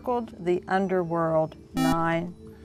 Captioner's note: buzzer